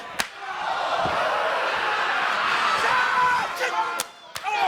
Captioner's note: crowd exclaiming